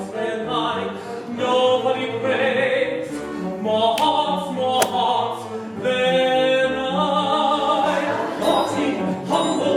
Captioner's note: two firm slaps